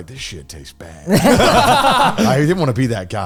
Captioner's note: all laughing